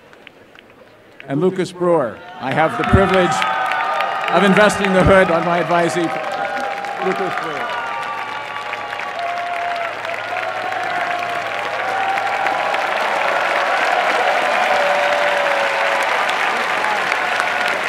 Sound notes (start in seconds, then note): 0.0 applause and cheering; 7.4 applause and cheering